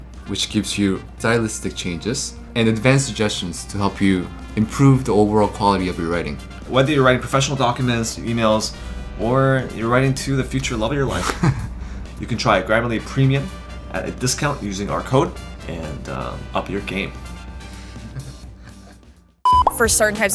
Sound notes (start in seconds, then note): 11.0 laughs; 17.7 laughs; 19.4 beep